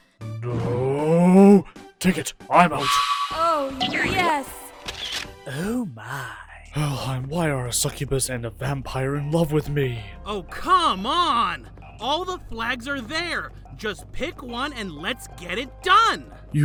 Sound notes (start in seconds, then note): 4.8 camera shutter sound